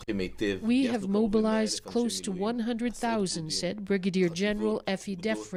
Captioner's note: speaking alternate language